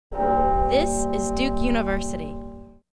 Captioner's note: bell tolls